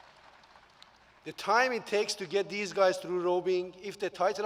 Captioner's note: applause